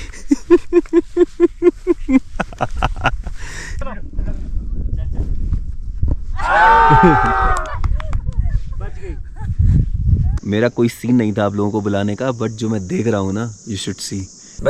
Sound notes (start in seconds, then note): 0.0 chuckling; 6.4 crowd cheering